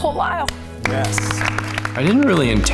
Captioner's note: audience applauding